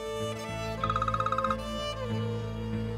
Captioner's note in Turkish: Telefon çalıyor